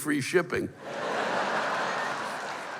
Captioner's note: laughter